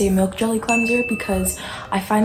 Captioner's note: chime